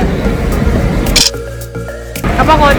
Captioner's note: camera click